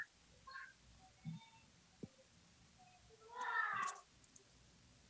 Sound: children chattering

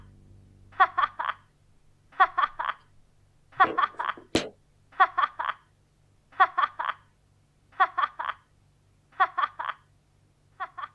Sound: 'phone Mandy' continuously chuckles

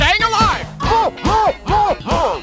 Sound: mmph, mmph, mmph, mmph!

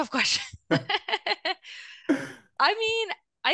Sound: laughing

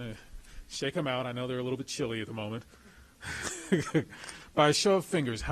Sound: laughs

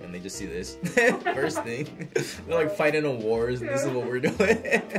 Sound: laughs; React laughs; laughs

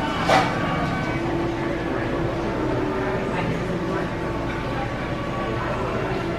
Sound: indistinct background chatter

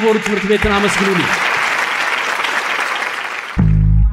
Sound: applause

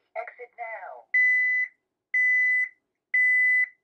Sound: beeping

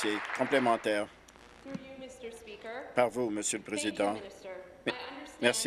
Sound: some Applause

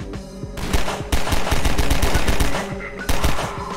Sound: gunshots; Combine radio chatter

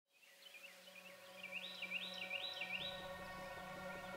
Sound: birds trilling

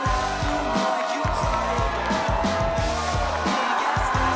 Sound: cheering continues

